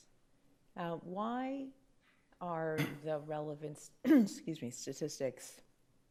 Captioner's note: clears throat